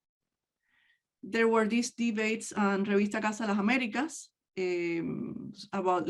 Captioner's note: speaks in native language